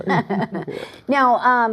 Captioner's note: laughter